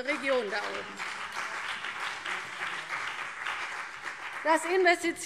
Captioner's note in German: Beifall CDU und BÜNDNIS 90/DIE GRÜNEN